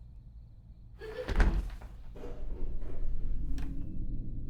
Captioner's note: child giggles; running footsteps; quiet, menacing music